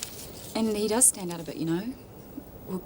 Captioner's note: none